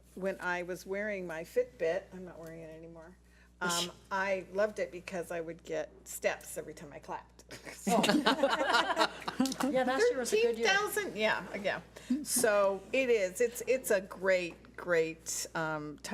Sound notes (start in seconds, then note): 7.9 board laughs